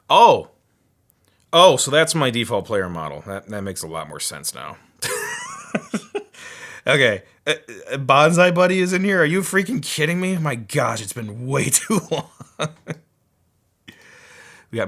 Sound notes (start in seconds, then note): 5.0 laughing; 11.8 laughing